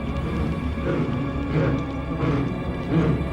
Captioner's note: sobbing